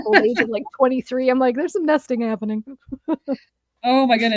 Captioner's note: laughs